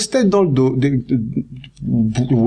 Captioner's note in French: balbutiements